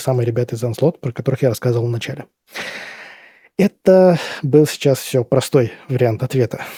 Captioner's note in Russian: тяжело вздыхает; вздыхает